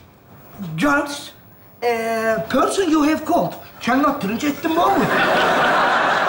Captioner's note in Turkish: İngilizce konuşur